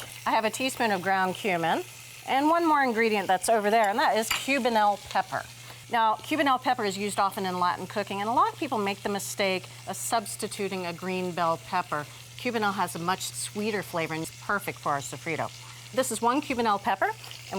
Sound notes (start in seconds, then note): none